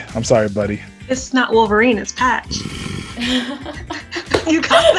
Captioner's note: laughs